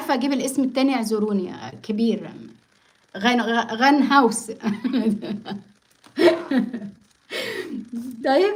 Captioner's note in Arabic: ضحك